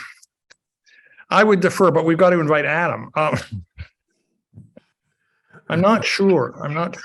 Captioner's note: chuckles